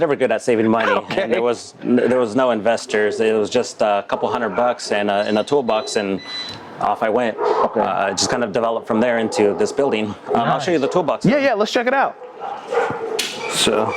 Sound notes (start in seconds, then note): 7.1 dogs barking